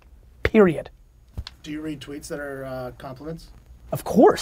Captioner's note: pat